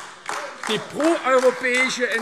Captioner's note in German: Beifall AfD